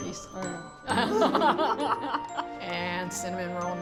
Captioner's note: both laughing